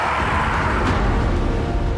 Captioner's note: loud roaring